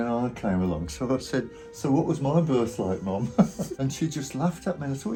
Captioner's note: laughs